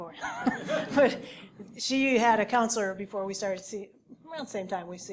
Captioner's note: laugh